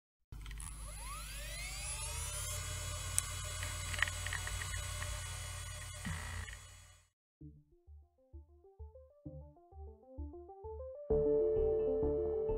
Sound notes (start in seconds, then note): 0.4 vintage Computer Noises